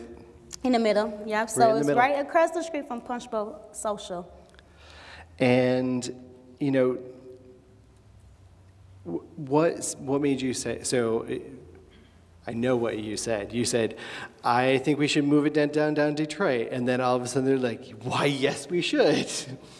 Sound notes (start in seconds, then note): none